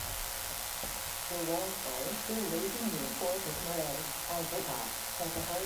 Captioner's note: muffled sound of software reading text